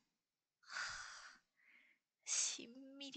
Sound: sigh

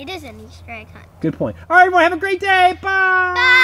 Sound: voiceover

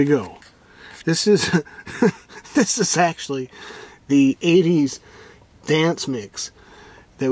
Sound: chuckles

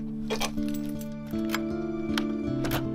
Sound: keys jingle

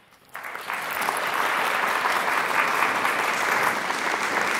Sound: audience applauding

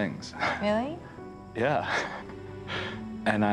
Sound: chuckles

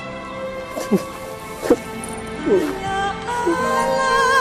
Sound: both sobbing

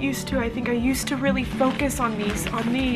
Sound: paper rustling

